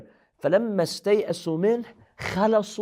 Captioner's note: Arabic